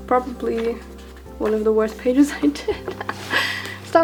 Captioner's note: laughs